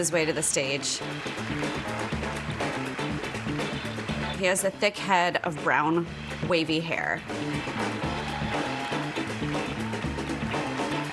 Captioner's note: applause